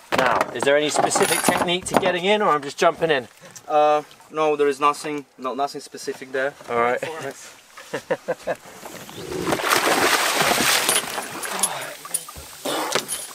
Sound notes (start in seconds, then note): 7.8 laughter; 8.4 water Splashing